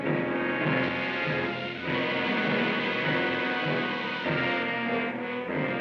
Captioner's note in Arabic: هسهسة الغاز; موسيقى درامية